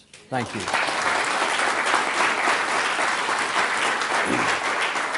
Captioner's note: applause